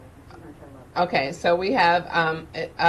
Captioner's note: person speaking off mic